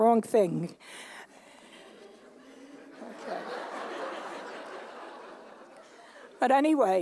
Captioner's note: laughter